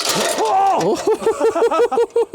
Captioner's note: screaming; both laughing